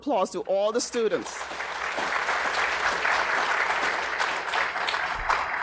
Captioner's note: audience applauding